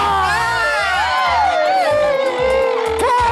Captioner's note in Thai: เสียงร้อง